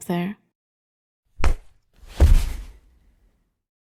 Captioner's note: impact and thump